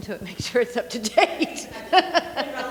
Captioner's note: laughing